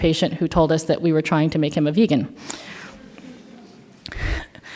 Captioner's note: laughter